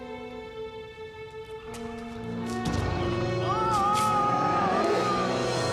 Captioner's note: groaning